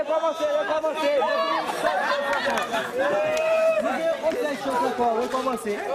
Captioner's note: laughter, speaking in Kreyol